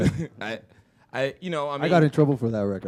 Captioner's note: chuckle